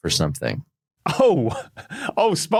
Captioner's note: chuckles